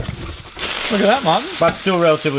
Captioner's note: rustling